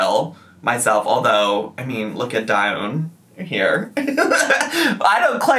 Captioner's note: laughs